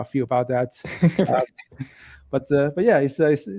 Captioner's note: laughing